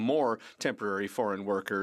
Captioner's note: speaking French